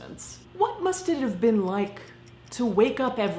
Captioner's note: clock ticking